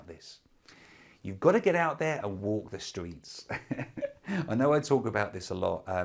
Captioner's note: laughs